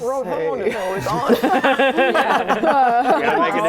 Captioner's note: laughing